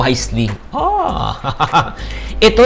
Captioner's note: laughs